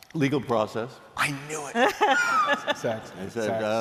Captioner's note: laughter